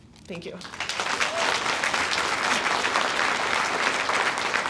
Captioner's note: audience applauds